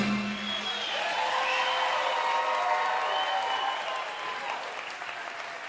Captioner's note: audience cheering and applauding